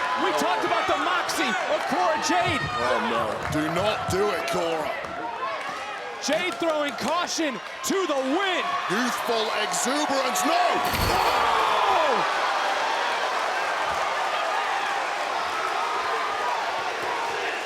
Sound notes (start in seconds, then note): 10.5 crowd cheering; 10.8 table collapsing